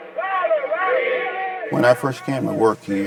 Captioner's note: chanting